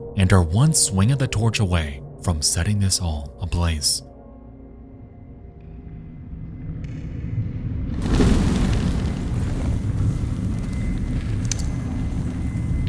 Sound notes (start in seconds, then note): 7.9 flames whooshing